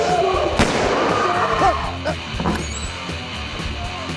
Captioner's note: gun firing